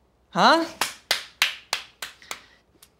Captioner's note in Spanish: aplaude